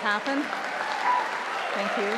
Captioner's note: audience applauding